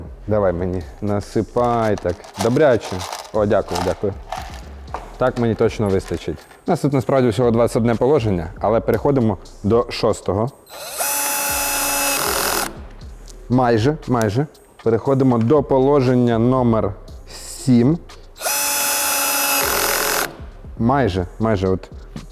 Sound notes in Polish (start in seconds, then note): 10.7 dźwięk wkrętarki; 18.4 dźwięk wkrętarki